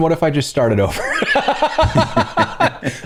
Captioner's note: laughter